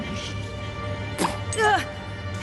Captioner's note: ptoo!